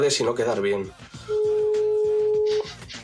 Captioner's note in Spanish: Tono de llamada